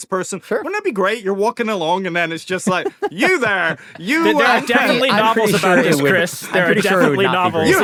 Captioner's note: laughter